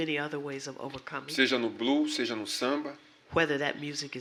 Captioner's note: speaking portuguese